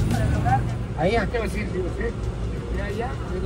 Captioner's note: in Spanish